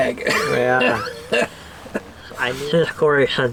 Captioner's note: laughing